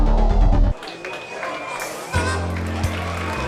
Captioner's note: crowd chattering